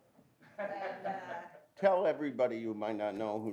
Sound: audience laughs

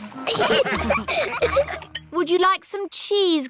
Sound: laughter

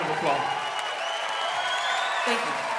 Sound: audience cheering

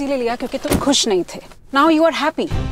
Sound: car door closes

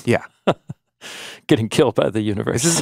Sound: laughs

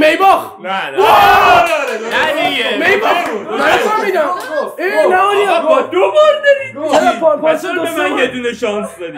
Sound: arguing

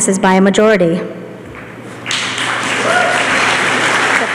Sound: applause

